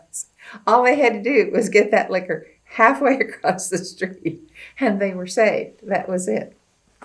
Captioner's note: laughs